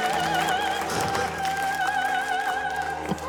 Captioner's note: wheezes